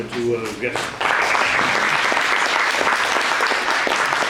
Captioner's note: audience applauds